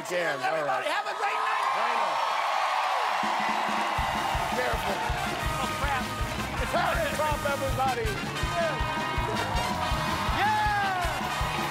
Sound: cheers and applause

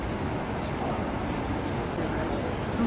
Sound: water spray

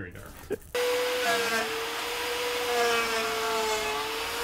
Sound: saw whirring

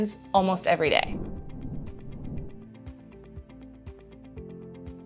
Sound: air whooshes

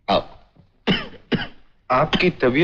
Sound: coughs

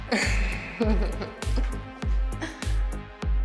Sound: laughter

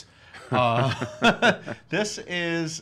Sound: laugh

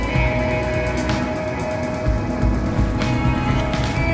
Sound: lively music; water splashing; lively music

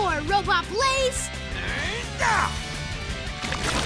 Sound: grunting

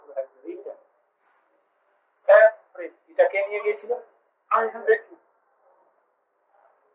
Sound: Hindi

